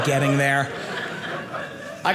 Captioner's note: audience laughing